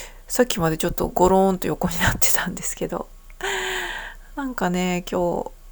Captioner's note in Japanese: 息をのむ音